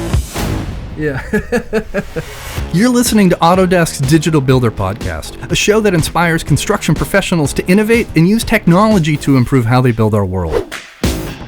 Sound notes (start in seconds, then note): 1.0 laughing